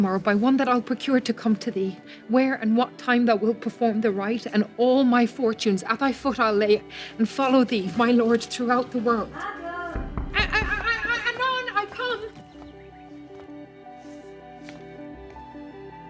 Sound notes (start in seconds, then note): 9.9 door knocking; 12.6 soft music